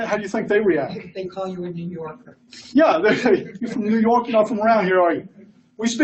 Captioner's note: laughs